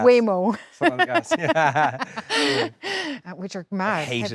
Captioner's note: Jessie laughing; laughs